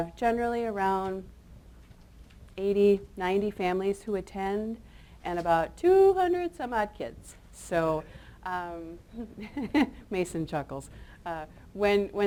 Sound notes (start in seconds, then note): 9.2 chuckles